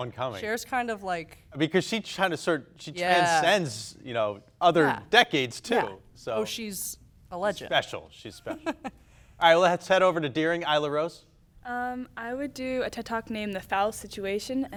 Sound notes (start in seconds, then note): 7.3 laughing